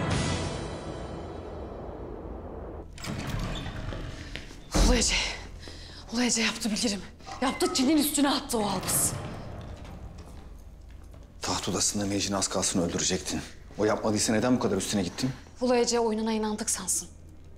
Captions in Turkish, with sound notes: [Kapı Gıcırtısı Sesi] (Sesli nefes veriyor.) Ulu Ece... ...Ulu Ece yaptı bilirim. Yaptı Çin'in üstüne attı o Albız. [Adım Sesleri] Taht odasında az kalsın Mei Jin'i öldürecektin. O yapmadıysa neden... ...bu kadar üstüne gittin? Ulu Ece oyununa inandık sansın...